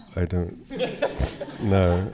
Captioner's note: laughter